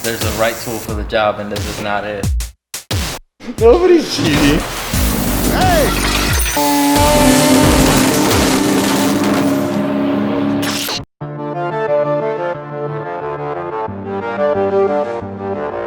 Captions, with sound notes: - There's a right tool for the job and this is not it. - Nobody's cheating. Hey. (engines revving) (organ music)